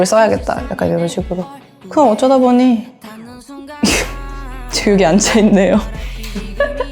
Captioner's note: laugh